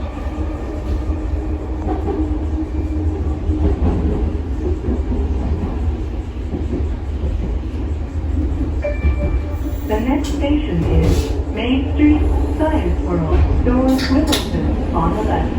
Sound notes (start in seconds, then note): 8.8 next Station Chime